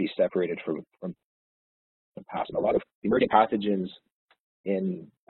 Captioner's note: audio distorts